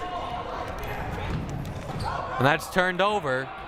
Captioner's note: crowd murmuring